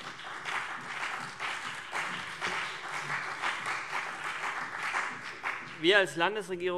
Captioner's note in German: Beifall CDU und BÜNDNIS 90/DIE GRÜNEN